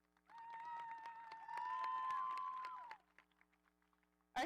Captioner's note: audience applauding